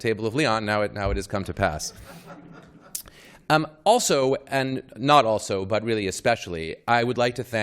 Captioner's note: laughter